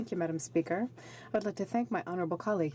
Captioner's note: speaking French